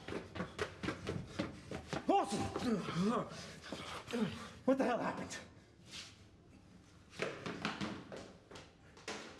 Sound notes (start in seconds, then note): 3.9 gasps